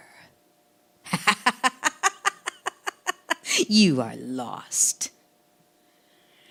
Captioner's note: laughing